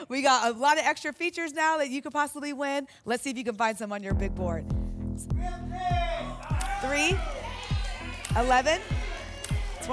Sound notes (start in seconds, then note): 5.8 audience shouting numbers